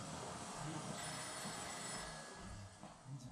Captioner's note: the phone rings